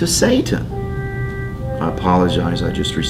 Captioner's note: phone rings